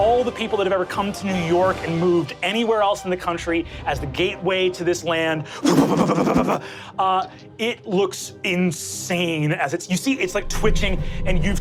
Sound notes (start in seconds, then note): 5.6 imitates air whooshing